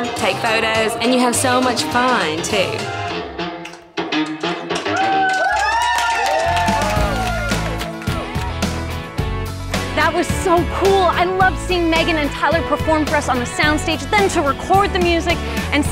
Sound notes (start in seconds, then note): 4.6 applause; 7.6 ebullient music